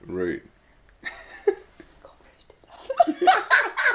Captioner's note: laughing